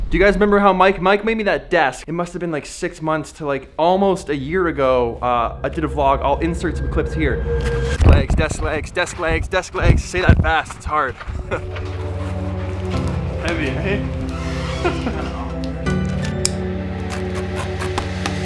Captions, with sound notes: Do you guys remember how Mike made me that desk, it must have been like six months to like almost a year ago I did a vlog. I'll insert some clips here. Legs, desk legs, desk legs, desk legs. Say that fast, it's hard. (laughs) - Heavy. (calming music)